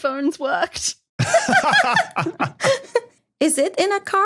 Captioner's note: both laughing